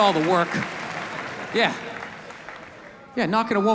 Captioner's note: audience laughs